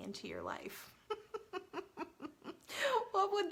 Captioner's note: laughs